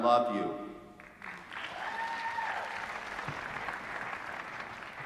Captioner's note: applause